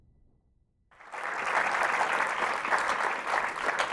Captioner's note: applause